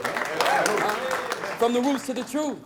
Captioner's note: applause